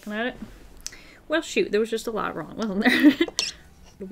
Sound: laughs

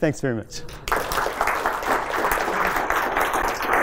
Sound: applause

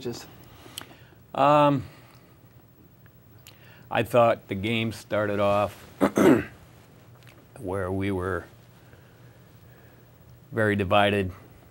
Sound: clears throat

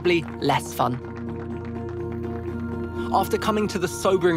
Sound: participants applauding

